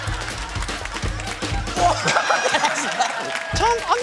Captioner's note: laughs